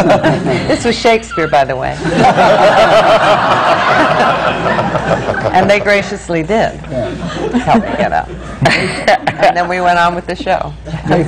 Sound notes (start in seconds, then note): 4.8 laughter